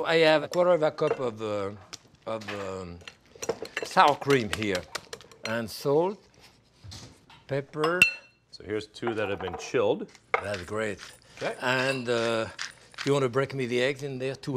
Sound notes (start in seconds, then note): none